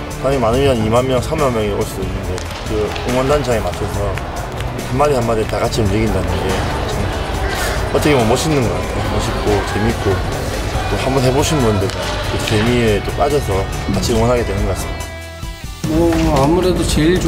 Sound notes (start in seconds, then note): 0.6 speaking in foreign language